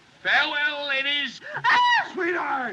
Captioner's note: screams